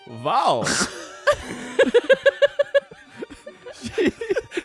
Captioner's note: everyone laughs